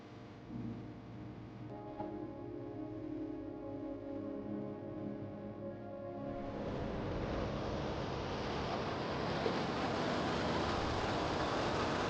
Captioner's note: sound of the Waterfalls